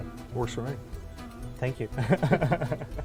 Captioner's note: laughing